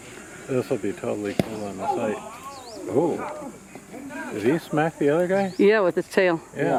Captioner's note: loud smack